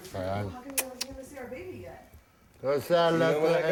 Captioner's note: kissing